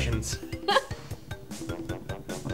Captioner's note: laughs